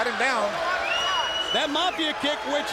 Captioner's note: crowd cheering; crowd member whistles